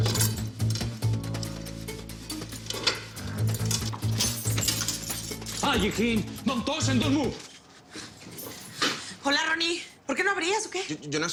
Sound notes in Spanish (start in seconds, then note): 0.1 Sonido al abrir la puerta; 5.5 Exclamación